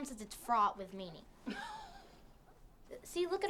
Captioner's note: laughs